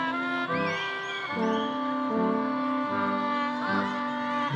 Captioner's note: audience whistling